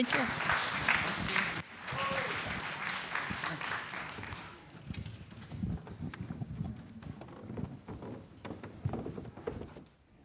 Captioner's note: applause